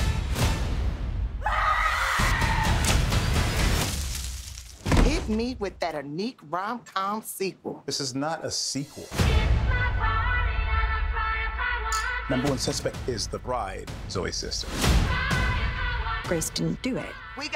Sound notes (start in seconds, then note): 1.4 screams